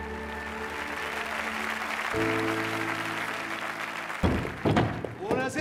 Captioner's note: applauding; in Italian